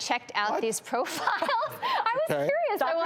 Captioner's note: laughs